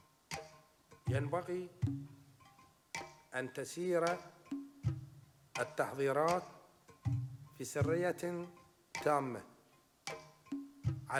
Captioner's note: speaking arabic